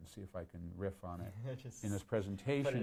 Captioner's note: laughs